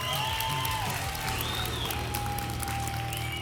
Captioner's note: applause and cheering cont